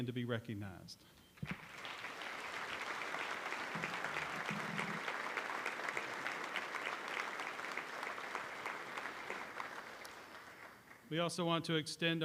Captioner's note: applause